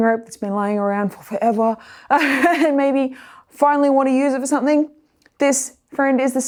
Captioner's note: laughs